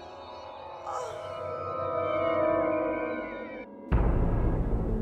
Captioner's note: gasps